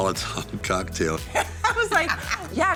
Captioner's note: both laughing